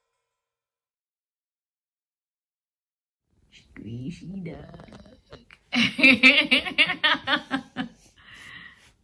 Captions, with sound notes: Squishy duck. [laughs]